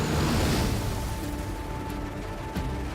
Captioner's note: propellers humming